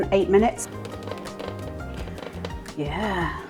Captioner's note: crispy tapping